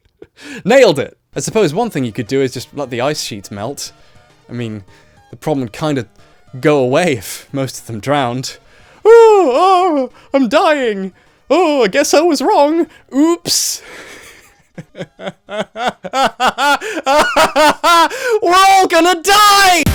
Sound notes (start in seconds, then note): 9.0 mockingly; 14.0 laughter; 16.1 LOUDER laughter